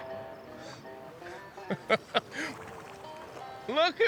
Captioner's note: laughs